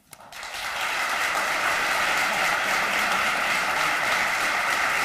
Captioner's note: applause